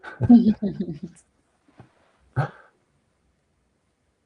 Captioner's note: laughing